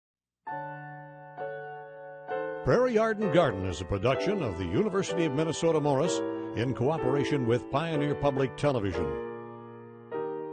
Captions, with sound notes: - [Voiceover] Prairie Yard and Garden is a production of the University of Minnesota Morris, in cooperation with Pioneer Public Television.